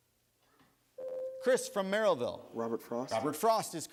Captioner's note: buzzer sounds